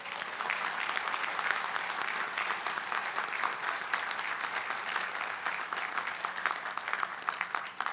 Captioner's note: applause